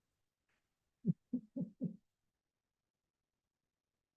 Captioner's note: chuckles